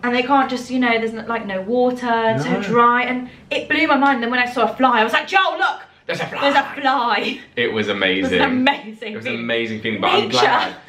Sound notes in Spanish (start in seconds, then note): 8.1 laughs